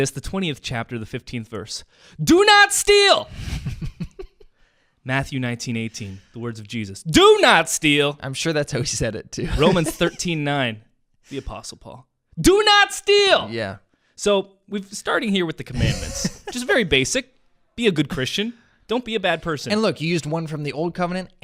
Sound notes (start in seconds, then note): 3.3 laughs; 9.4 laughs; 15.7 laughs